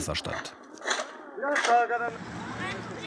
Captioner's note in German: Stimmengewirr